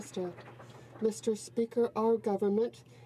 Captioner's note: some Applause